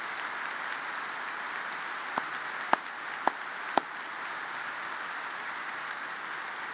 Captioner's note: applause